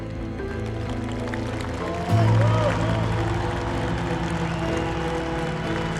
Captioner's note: crowd applauding; somber music